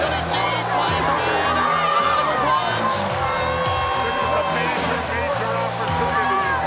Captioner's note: people chattering indistinctly